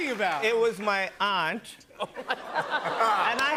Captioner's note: laughter